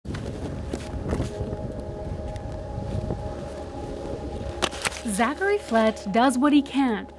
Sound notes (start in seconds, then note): 0.4 wind blows